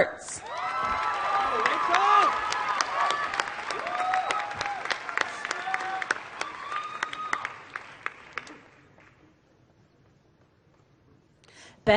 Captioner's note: applause